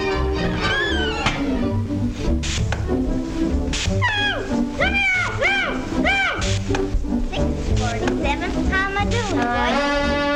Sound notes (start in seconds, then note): 0.0 machinery creaking